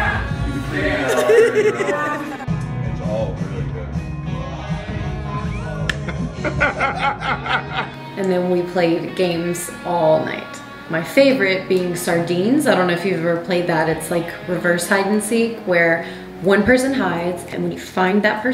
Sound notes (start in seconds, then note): 6.0 man laughing